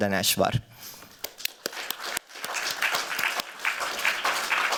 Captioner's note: applause